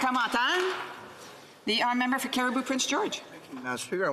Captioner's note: some applause